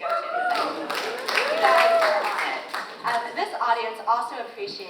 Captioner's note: audience applauds